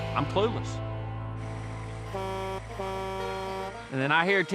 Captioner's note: truck's horn honking